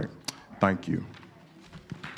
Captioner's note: applause